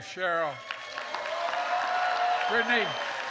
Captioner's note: applause